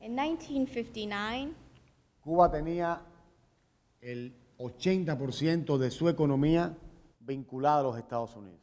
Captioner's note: speaking in Spanish; speaking in Spanish